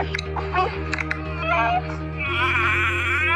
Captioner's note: girl crying